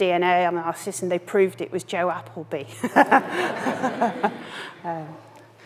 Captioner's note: chuckles